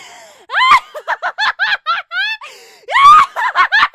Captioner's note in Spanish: risa maníaca; risa maníaca se intensifica